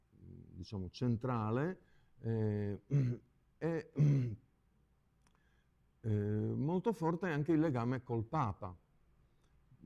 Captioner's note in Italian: schiarire la voce